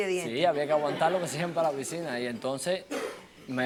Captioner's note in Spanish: Risas